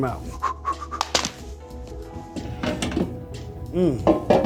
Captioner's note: pan clatters